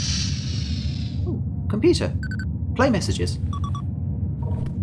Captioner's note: computer beeps